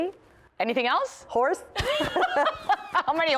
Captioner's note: laughter